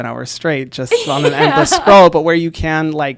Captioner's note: laughs